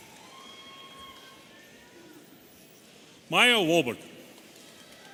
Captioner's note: audience cheering